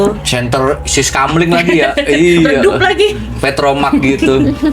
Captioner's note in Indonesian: tertawa